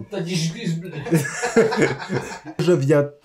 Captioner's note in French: Rires